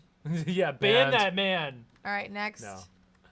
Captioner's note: laughing